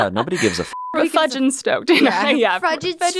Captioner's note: beep